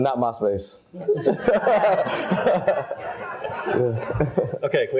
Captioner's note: all laugh